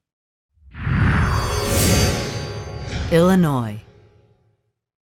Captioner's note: sound effect